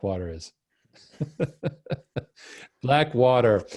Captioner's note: laughing